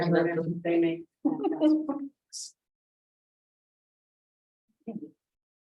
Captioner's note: chuckles